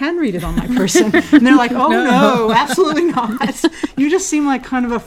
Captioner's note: laugh